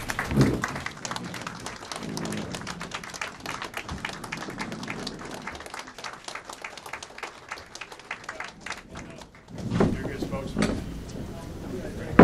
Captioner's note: applause